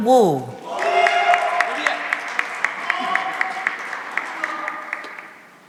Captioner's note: cheering and applause